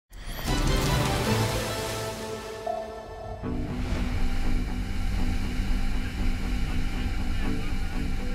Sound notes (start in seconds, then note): 0.2 upbeat music; 2.9 boat engine roaring